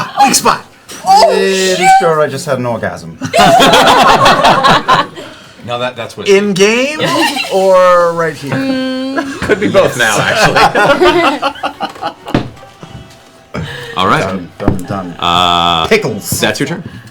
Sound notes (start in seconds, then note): 3.2 laughter; 9.1 laughter